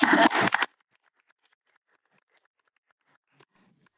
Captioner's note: audience clapping